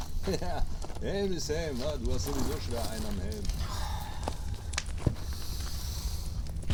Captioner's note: laughter